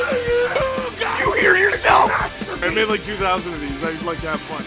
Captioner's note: Harry potter screaming; screaming